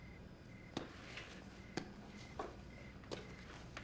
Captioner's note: crickets chirping